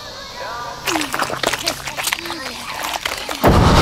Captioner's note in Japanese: アイスをなめる音